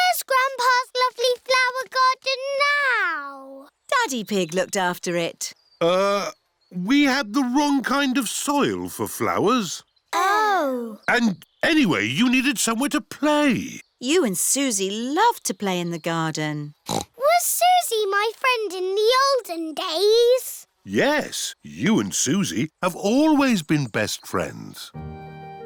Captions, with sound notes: Where's Grandpa's lovely flower garden now? Daddy Pig looked after it. Uh, we had the wrong kind of soil for flowers. -Oh. -Oh. And... Anyway, you needed somewhere to play. You and Suzy loved to play in the garden. (SNORTS) Was Suzy my friend in the olden days? Yes. You and Suzy have always been best friends.